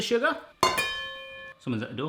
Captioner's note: pan dinging